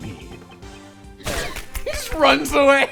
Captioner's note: nyoom